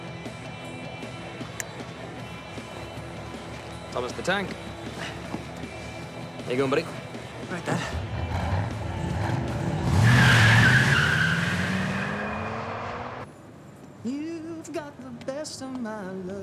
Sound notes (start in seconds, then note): 7.7 tires screeching; 7.9 engine revs